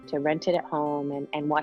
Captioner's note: air whooshes